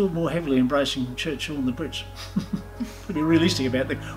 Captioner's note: giggles